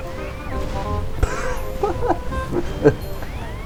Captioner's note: laughing at the numerous amounts of destroyed families